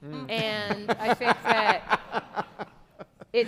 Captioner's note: laughing